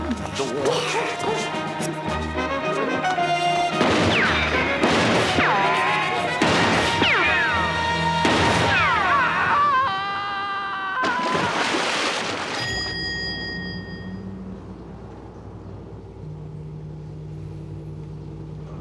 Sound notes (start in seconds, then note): 3.8 gunshots and ricochets; 11.0 splash